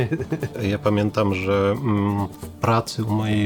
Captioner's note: both laugh; in Polish